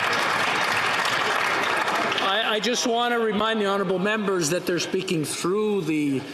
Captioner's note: some Applause